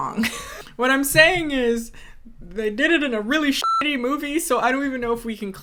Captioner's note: beep